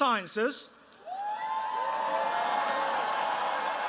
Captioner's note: cheers, applause